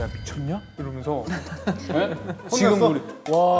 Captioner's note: he he he